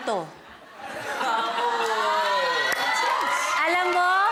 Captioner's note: crowd laughs, cheers